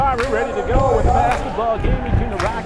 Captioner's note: crowd cheering; radio Announcer